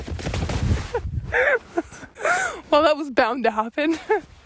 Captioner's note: laughing